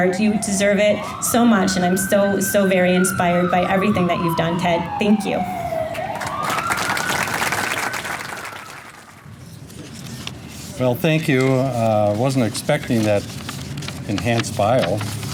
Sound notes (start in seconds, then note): 6.0 enthusiastic clapping